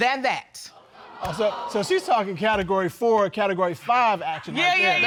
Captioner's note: audience gasps